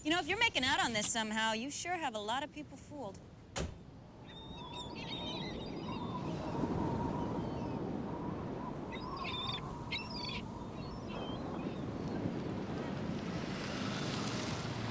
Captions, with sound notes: - You know, if you're making out on this somehow, you sure have a lotta people fooled. (car door clicks shut) (wind whipping) (birds singing)